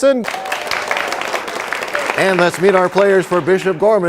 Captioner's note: applause